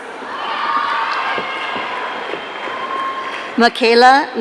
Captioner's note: audience cheering